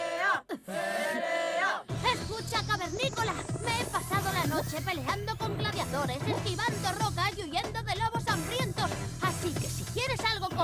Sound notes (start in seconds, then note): 1.3 growling